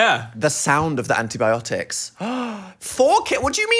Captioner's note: gasps